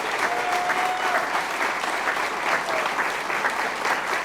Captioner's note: crowd applause